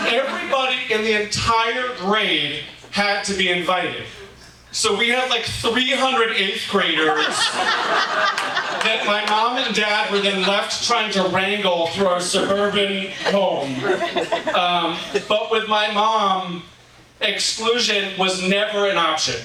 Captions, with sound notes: everybody in the entire grade had to be invited. So we had like 300 eighth graders (audience laughing) that my mom and dad were then left trying to wrangle through our suburban home. But with my mom, exclusion was never an option.